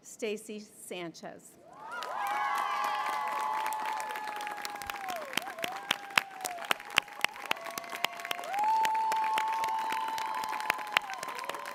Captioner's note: applause